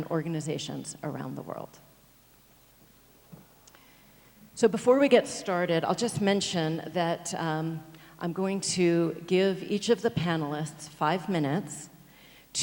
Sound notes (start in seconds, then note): none